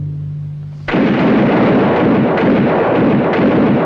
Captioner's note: guns fire